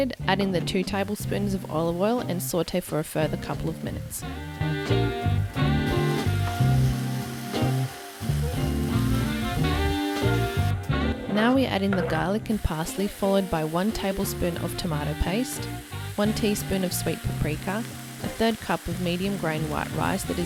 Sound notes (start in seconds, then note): 4.7 upbeat music; 7.1 pan sizzles